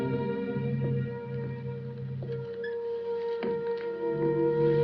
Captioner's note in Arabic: خطوات